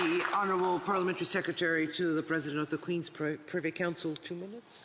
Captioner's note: some Applause